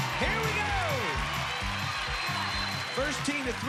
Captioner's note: cheers and applause